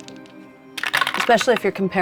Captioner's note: die rattling